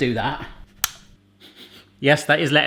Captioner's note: socket switch clicks; he sniffs